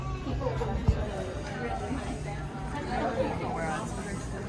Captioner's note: crowd chattering